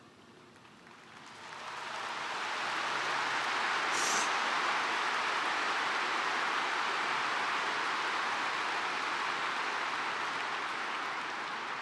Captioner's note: applause